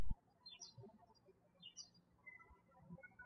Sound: birds chirping

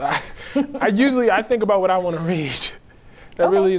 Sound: laughing

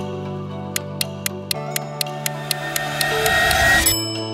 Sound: timer ticking; bell dings

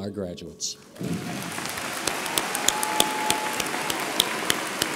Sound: audience applauds

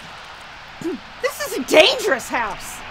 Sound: Shelley clears throat

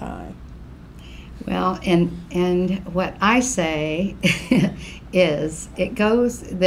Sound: laughs

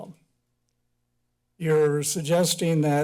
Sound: pause

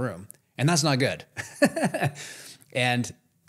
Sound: laughs

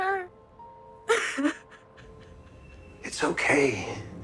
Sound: sobbing

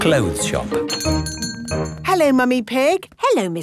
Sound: doorbell chiming

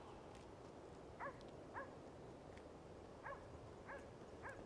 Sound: dogs barking

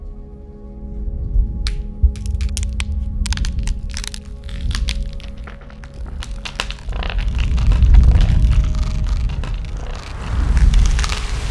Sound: flowers Cracking

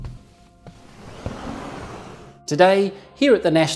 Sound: sfx: footsteps; sfx: door opening

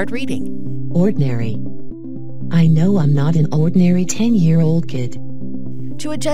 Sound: text is read out loud

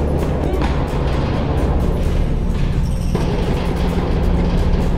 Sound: door slamming

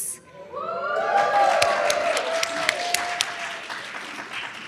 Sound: audience cheers

